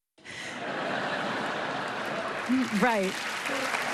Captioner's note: laughter